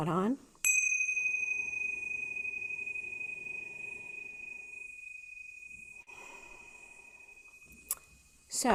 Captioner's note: prayer bell rings